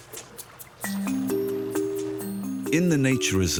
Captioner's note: boat engine revving